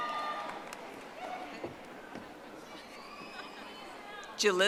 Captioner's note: audience applauding